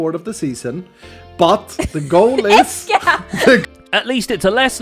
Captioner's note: scoffs